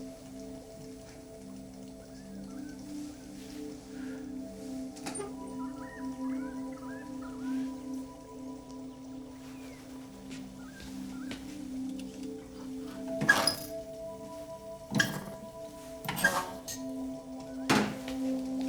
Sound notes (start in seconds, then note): 2.1 birds squeaking